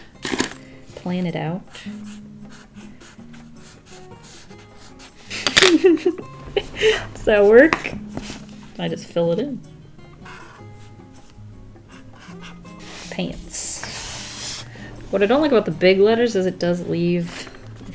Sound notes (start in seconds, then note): 5.8 laughs